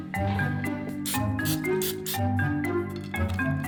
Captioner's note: spraying